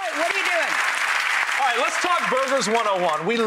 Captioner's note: applause